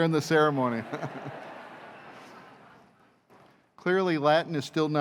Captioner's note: laughter